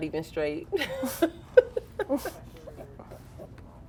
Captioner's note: girls laughing